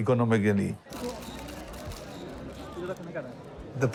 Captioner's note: sounds of photos being taken